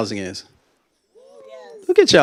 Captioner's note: faint cheers